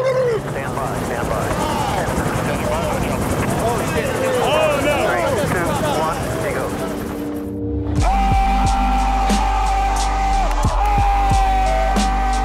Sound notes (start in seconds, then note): 7.9 yelling